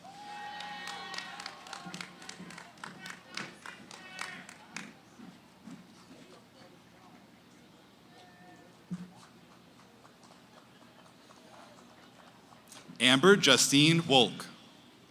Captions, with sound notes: [ Cheering, applause ] [ Background conversations ] Amber Justine Wolk.